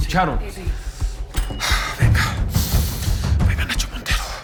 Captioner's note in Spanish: Susurra